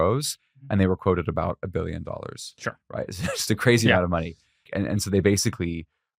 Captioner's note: laughs